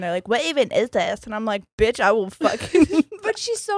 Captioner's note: giggles